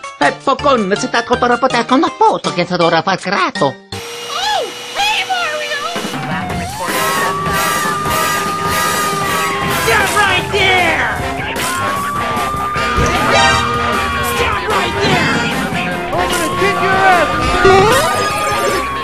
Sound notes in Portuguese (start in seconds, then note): 5.9 helicópteros e sirenes; 17.8 sons de cano